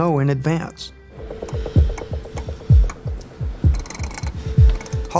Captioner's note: dial clicking